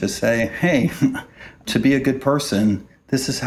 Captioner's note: chuckles